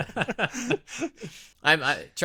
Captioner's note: both laughing